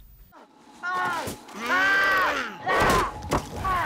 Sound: both screaming and grunting

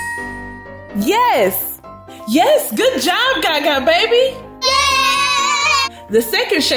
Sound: boys cheering

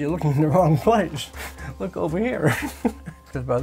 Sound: chuckling

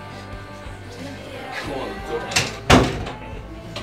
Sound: door closes and music gets quieter

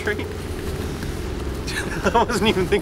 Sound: laughs

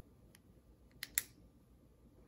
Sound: click

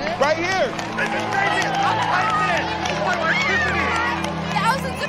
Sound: cheering continues

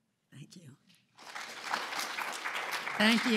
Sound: applause

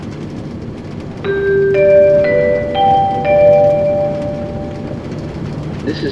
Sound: chime

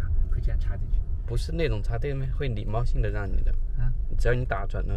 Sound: car

